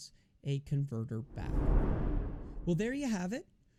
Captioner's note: air whooshes